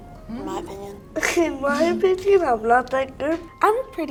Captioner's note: laughs